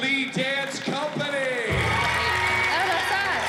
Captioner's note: cheering and applause